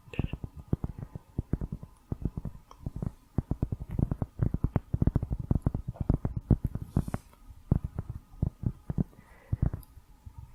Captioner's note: tapping on cork